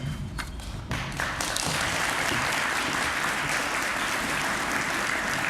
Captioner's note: applause